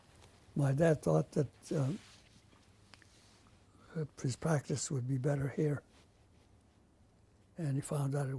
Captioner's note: pauses for 3 seconds